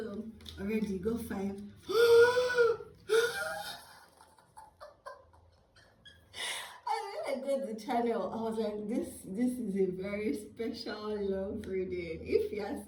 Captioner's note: gasp